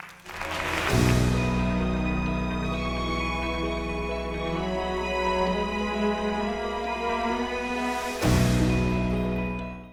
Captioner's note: applause and Music